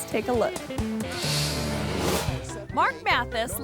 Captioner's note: upbeat music; image whooshes